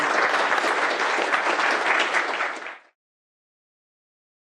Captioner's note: applause